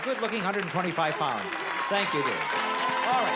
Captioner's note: cheering